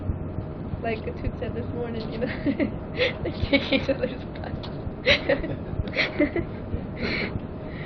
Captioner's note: laughing